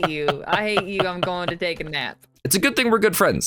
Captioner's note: still laughing